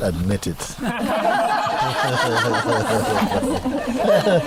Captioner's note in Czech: Smích